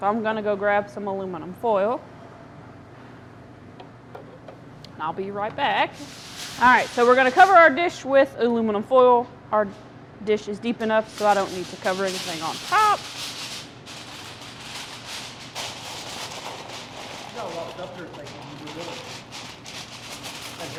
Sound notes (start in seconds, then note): 13.9 aluminum foil whooshing